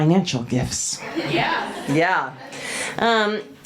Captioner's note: audience cheers